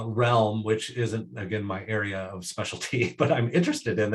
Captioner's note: laughs